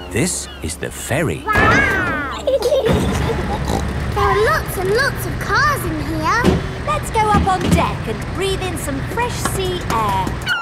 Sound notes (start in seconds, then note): 1.5 giggling; 3.0 snorts